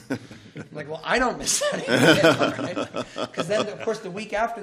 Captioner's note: laughter